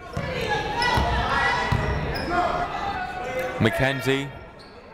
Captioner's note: people shouting in the crowd